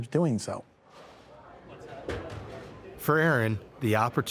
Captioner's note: people chatting